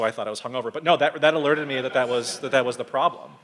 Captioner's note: audience laughs